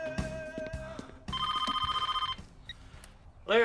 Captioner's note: telephone rings